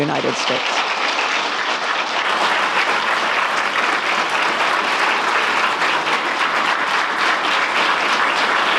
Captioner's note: applause